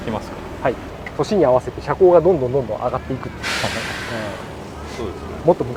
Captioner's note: laughs